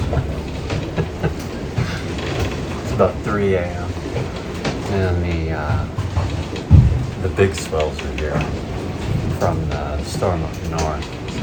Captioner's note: laughing